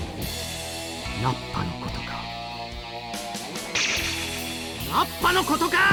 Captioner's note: in-game audio